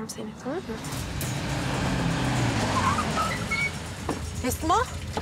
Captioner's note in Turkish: Araba sesleri